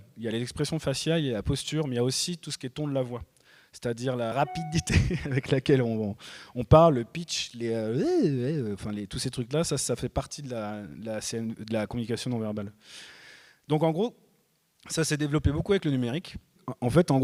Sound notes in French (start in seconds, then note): 4.9 rires